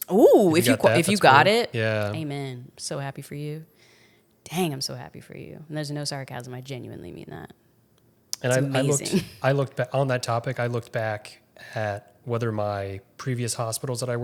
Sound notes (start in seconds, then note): 8.4 chuckles